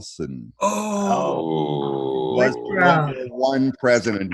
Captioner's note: gasps